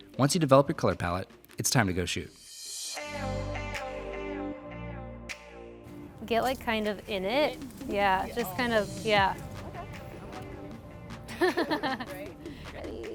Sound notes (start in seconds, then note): 3.2 rhythmic music; 6.9 murmurs; 9.6 women laugh